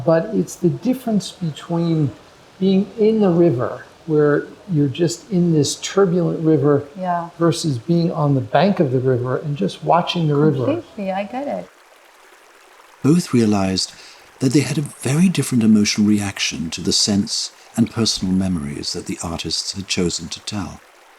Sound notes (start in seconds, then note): 11.8 river flows